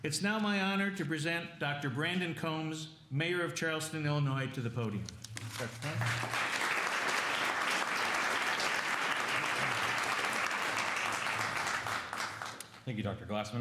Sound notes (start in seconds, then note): 5.6 applause